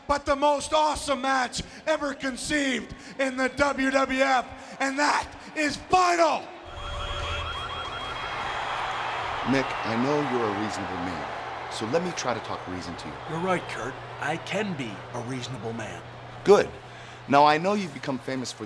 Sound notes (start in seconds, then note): 6.6 siren wailing; 8.1 audience cheering